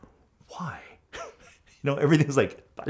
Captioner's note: laughs